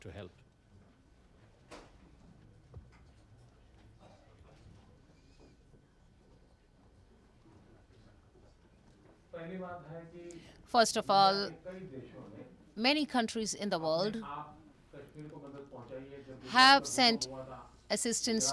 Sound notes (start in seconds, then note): 2.5 through translator